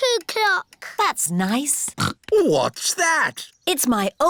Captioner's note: snorts